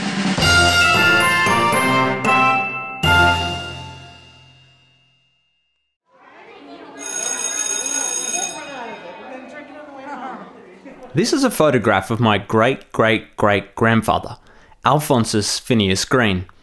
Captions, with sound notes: [upbeat music] [School bell rings over children chattering] This is a photograph of my great, great, great grandfather, Alphonsus Phineas Greene.